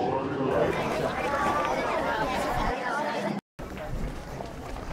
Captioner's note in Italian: applauso